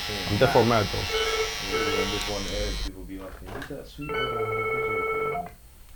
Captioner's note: phone rings